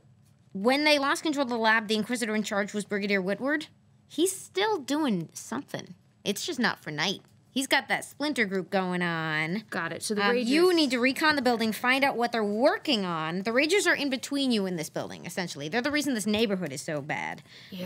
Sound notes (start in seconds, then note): none